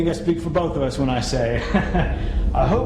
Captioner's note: laughs